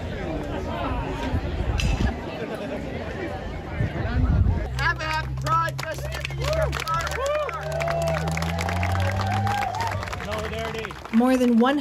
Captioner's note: idle background chatter